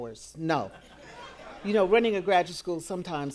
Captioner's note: audience laughing